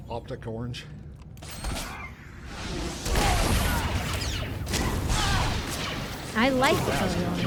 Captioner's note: yelling